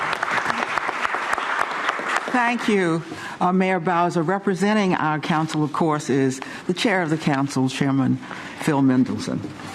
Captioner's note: applause